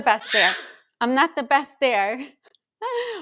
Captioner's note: screaming